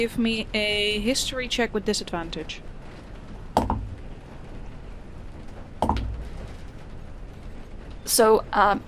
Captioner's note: more dice clunks